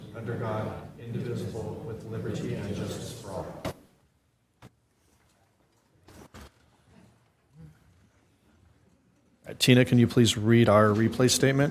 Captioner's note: reciting the pledge of allegiance